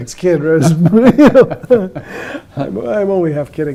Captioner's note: both laughing